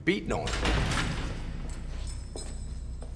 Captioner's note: jail door slams; keys jingle